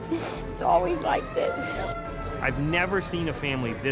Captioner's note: siren